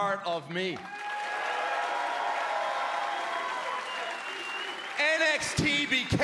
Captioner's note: cheers and applause